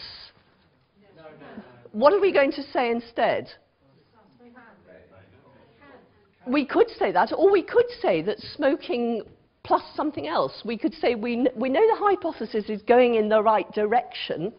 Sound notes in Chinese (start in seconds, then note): 5.0 無聲